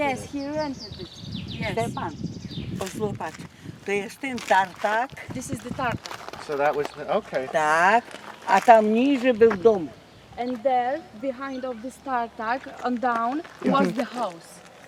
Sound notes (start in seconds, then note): 4.2 speaking in Polish